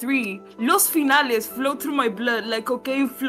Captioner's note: Spanish